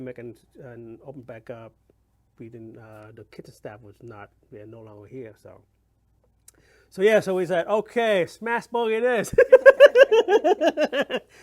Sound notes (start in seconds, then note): 9.4 laughs